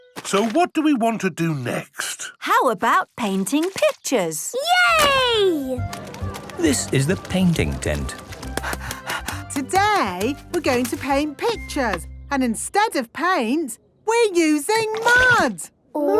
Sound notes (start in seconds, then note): 8.4 panting